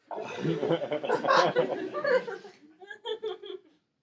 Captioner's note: laughing